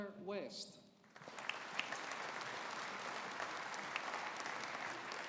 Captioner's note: audience applauding